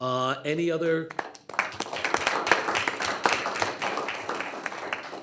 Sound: group applauds

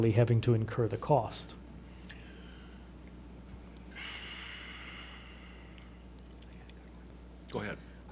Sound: sighs

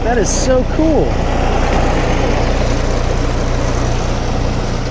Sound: train rumbling

